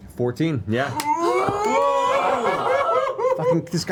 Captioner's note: cheering